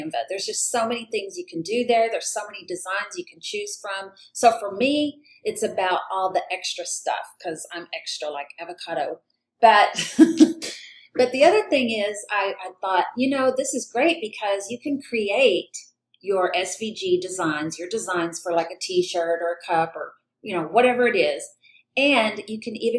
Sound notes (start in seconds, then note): 9.9 giggles